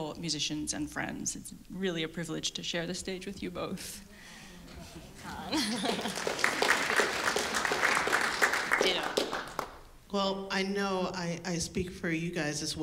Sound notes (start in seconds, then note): 5.5 audience applause